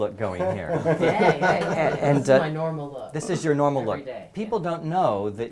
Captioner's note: laugh